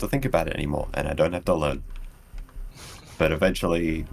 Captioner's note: further chuckle